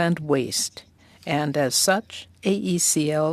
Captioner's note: speaking French